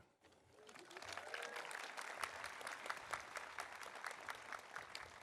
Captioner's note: audience applauding